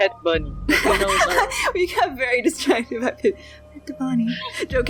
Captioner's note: laughs